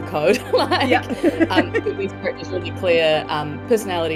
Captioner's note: laughs